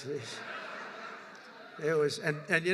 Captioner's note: laughter